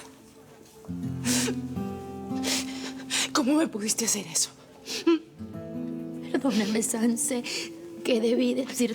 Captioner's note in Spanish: Sollozos